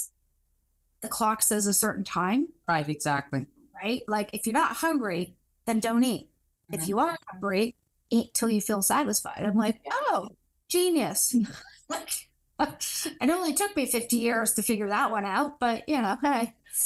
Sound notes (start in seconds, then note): 11.4 laugh